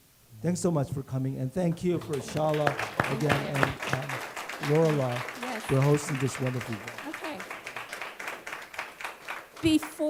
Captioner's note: clapping